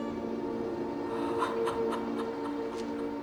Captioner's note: sobbing